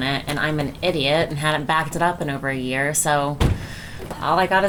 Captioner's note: door slams